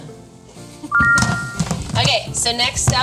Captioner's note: laughing; text chiming brightly